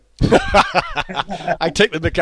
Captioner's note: laughs